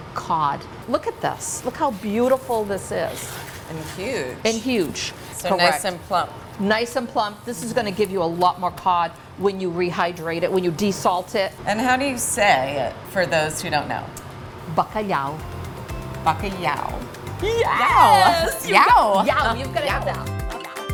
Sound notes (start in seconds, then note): 13.9 speaking foreign language